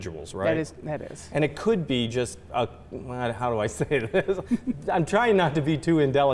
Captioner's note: chuckles